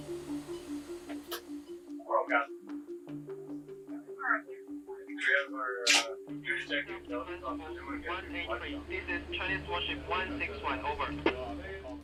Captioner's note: indistinct chatter